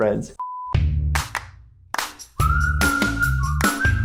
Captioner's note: beep